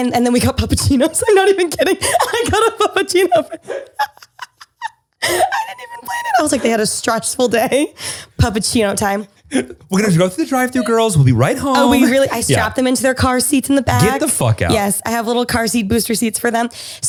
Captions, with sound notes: And then we got Puppachinos, I'm not even kidding. I got a Puppachino for (both laugh). I did even fret. I was like they had a stressful day, Puppachino time. - We're gonna drive through the drive through girls, will be right home. - Oh we really. I stopped them into their car seats in the bag. - Get the fuck out. - Yes, I have little car seat booster seats for them.